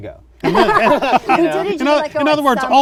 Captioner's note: laughter